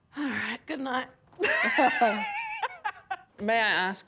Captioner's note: laughs loudly